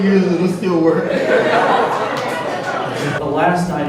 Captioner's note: laughter